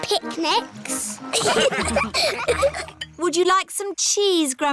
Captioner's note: laughter